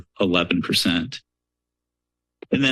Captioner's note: pause